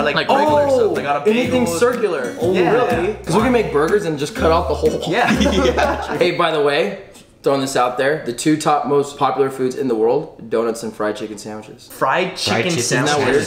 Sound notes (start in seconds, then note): 4.8 giggling